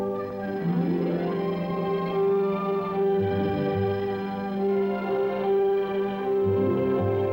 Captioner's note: phone ringing